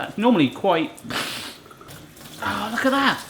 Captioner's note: makes water noise